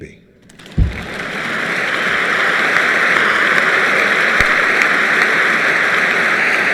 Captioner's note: applause